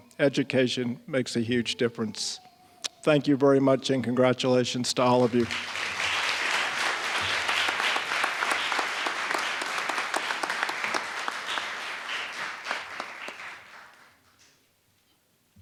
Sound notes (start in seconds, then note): 5.0 applause